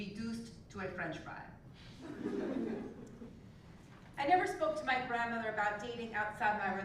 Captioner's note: laugh